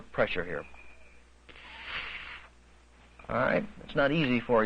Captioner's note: blowing